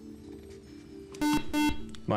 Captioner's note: beep